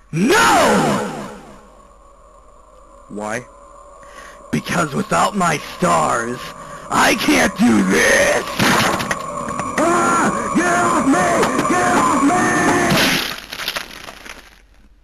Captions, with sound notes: NO!!!!! ... Why? Because without my STARS... I can't do THIS!! [Screaming] GET IT OFF ME!!! GET IT OFF ME!!! GET IT OFF MEEEEEE!!